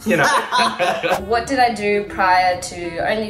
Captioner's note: both laughs